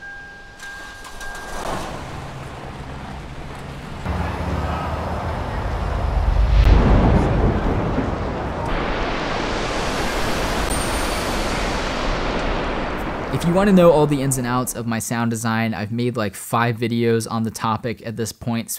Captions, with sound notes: (car beeping) (air whooshing) (thunder rumbling) (waterfall rumbling) If you wanna know all the ins and outs of my sound design, I've made like five videos on the topic at this point.